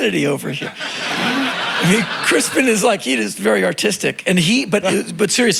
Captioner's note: crowd laughing